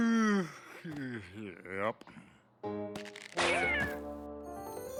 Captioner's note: yawn